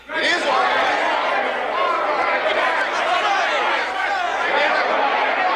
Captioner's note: Aplausos